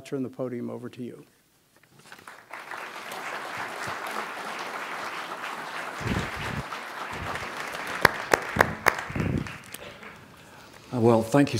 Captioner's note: applause